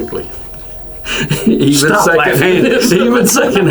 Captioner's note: laughs